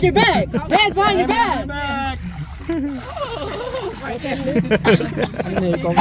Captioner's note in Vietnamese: Tiếng cười